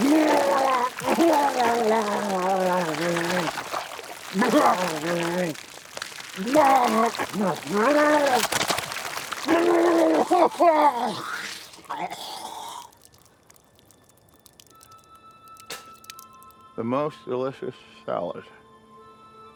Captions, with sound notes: (Walter retching continues) (Walter sputtering) (eerie music) - The most delicious salad.